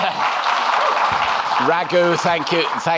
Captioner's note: audience clapping